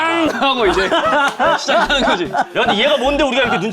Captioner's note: jun-youngmon's pathetic roar